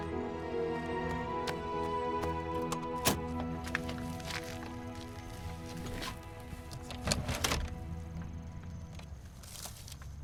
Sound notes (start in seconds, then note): 6.5 clattering